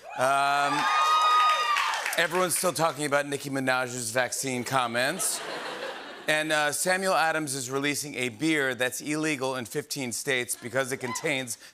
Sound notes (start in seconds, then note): 0.0 cheering and applause; 5.0 laughter